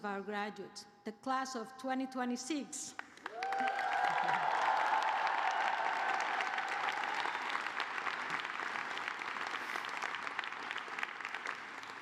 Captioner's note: cheers and applause